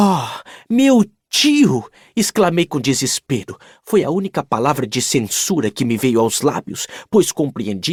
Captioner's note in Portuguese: suspirando